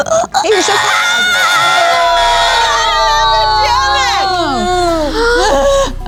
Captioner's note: everyone screams